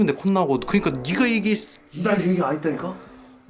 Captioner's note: stutter